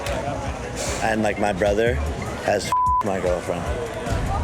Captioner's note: beep